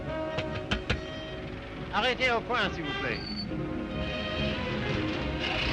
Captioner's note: knocks; Philip speaks French